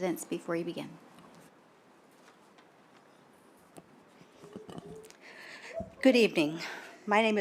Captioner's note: silence